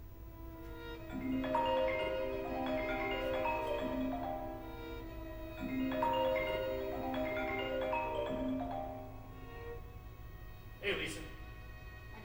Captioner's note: phone rings